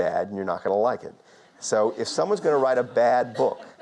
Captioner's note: audience laughter